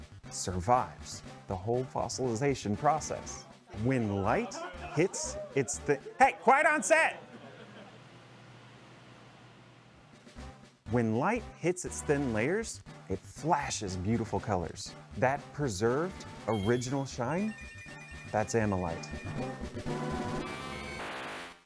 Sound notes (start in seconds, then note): 3.4 background chatter